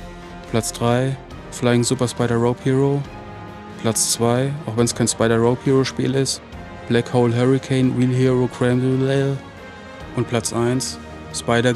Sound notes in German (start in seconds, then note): 6.5 Genuscheltes Vorlesen